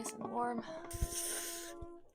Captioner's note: hisses like a snake